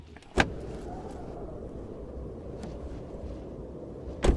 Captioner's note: wind howling